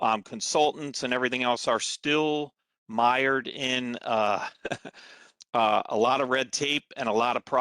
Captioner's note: laughter